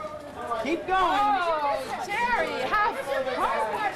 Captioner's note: chatter